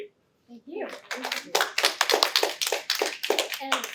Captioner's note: applause